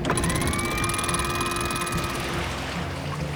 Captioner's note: clanking